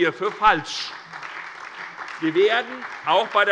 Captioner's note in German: Beifall SPD